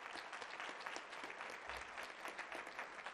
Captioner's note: applause